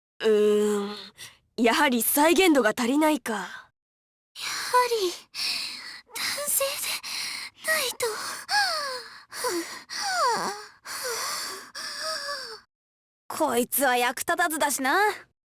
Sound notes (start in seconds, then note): 7.7 huff; 10.2 pant; 12.1 wheeze